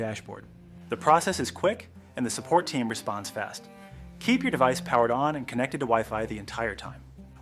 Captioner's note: speak with a helpful, explanatory tone